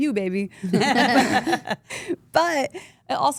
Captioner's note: group laughs